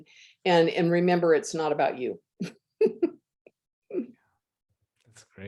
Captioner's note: laughs